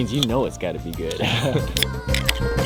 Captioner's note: both laugh